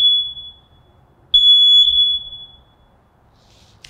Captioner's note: alarm stops